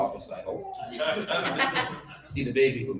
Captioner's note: laughter